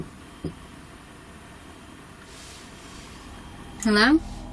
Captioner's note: soft thumping